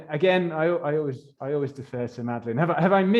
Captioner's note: chuckles